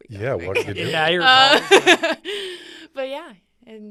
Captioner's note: laughs